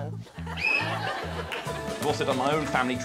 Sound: whistle blows

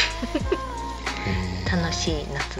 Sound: laughs

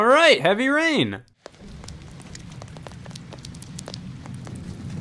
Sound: rain pattering

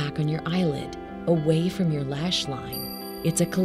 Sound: chime sounding

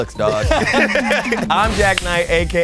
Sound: laugh

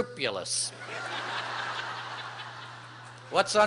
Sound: laughter

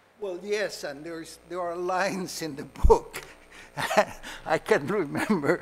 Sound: laughs

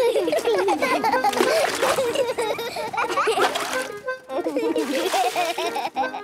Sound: excited laughter

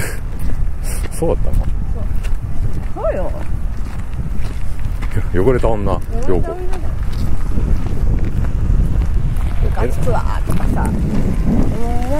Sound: laughter

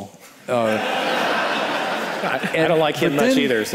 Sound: audience laughing

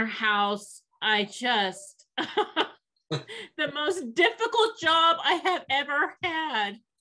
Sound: laughs

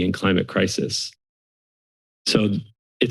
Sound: silence

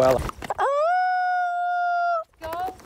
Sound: howling

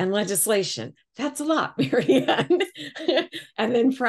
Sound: laughs

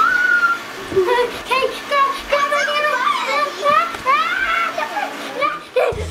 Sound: blender sound continues; screaming and breathing heavily

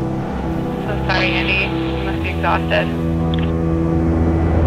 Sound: through Radio Device

